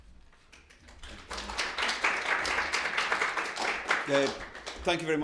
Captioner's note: attendees clapping